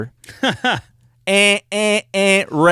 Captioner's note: chuckles